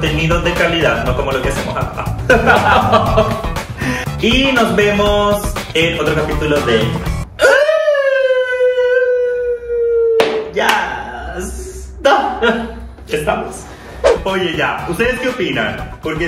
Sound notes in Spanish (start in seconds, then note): 1.6 risas